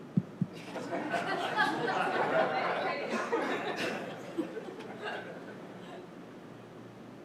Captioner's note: laughter